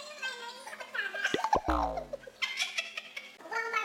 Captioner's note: laughter